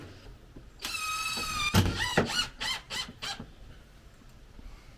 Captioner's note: drill whirring